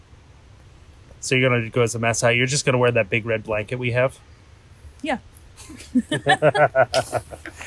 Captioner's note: laughter